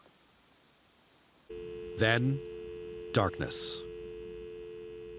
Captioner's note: dial tone